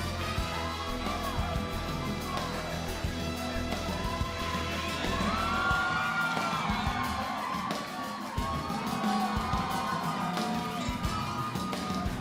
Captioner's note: crowd cheering